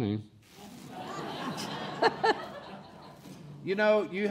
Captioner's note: laughing